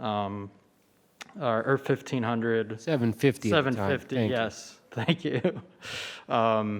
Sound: laughs

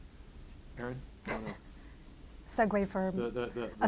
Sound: laughing

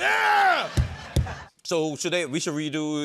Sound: banging

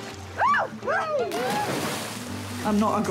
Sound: man chuckles; whooping; shrieks

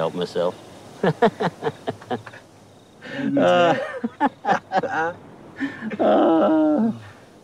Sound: laughs

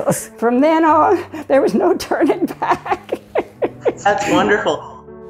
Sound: laughing

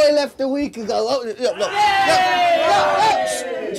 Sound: everyone shouts

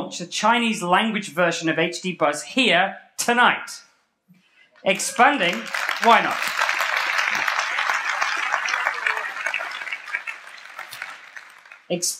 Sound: applause

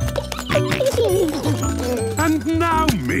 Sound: giggling, snorting

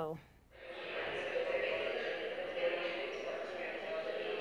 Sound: voices chattering

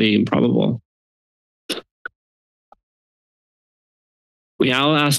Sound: silence

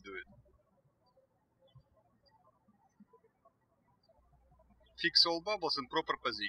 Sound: birds chirping

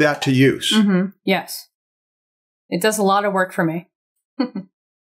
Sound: chuckles

